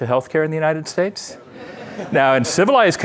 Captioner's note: laughter